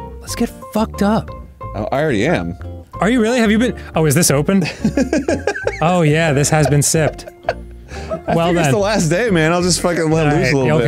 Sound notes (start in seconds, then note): 4.6 laughing